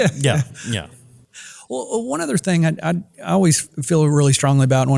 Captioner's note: laugh